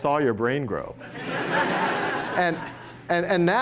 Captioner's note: laughter